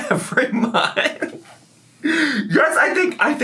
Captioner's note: laughs